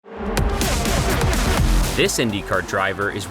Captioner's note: engines revving